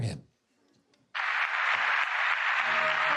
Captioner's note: applause